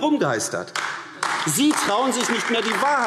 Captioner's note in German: Beifall AfD